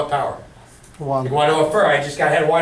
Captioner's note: voiceover